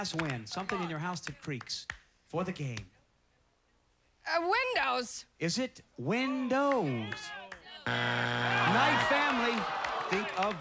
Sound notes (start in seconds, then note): 7.8 buzzer